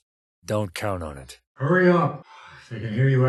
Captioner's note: far-off, radio